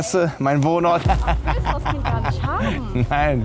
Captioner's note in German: lacht